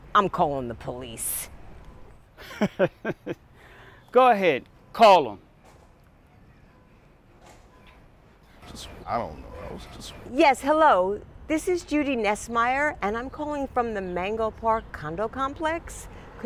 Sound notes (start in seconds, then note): 2.4 chuckles; 8.3 murmuring